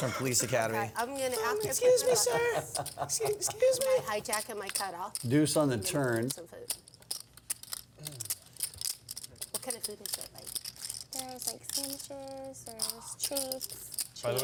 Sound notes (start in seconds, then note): 1.5 high pitch voice